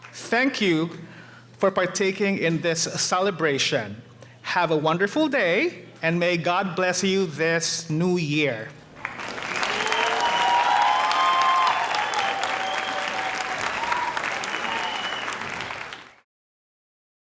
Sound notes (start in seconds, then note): 8.8 audience applauding; 8.8 audience cheering